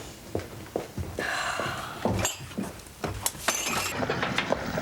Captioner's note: Sara sighs; tray rattling